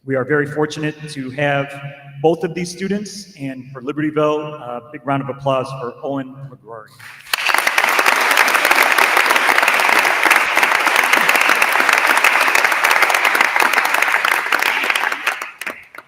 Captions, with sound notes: We are very fortunate to have both of these students. And for Libertyville, big round of applause for Owen McGrory. (attendees applauding)